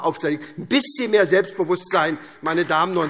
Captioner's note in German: Beifall SPD